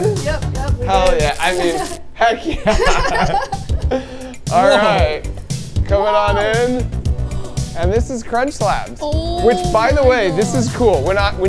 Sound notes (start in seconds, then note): 2.4 laughing; 7.2 gasping